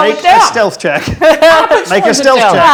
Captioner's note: overlapping chattering